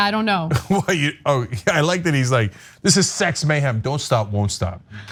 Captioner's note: laugh